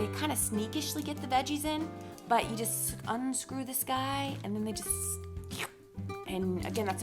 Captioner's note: slurp